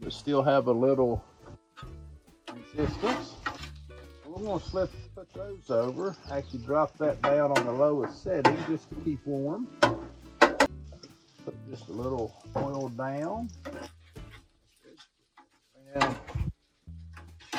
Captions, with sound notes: They still have a little, resistance. Well I'm goin' to slip and put those over actually drop that down on the lowest setting just to keep warm. (metal spatula clangs) Put just a little oil down. Give it a spread,